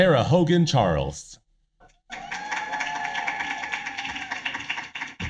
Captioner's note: applause